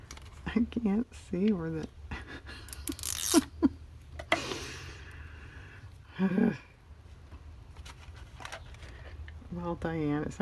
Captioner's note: laughs